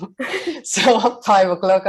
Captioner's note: chuckles; laughs